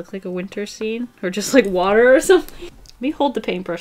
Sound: laughs

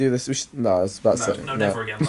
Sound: laughing

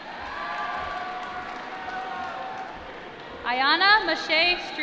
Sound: applause

